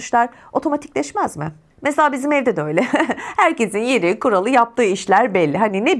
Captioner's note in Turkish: kahkaha